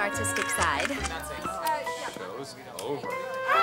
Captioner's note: reporters chattering